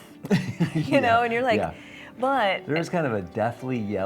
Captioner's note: laughing